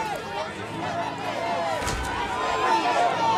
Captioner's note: crowd; Crowd chanting "Free Reverend Dave!"